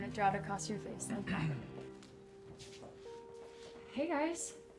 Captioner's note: clears throat